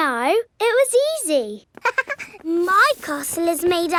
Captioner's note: chuckles